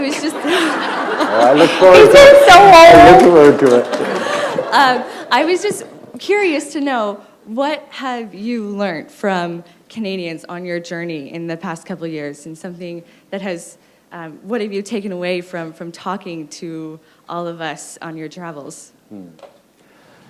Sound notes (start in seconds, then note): 2.0 laughter